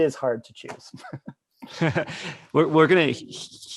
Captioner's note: laughs